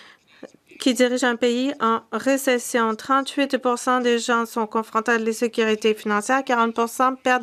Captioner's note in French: voix de l'interprète